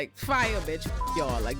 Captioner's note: beep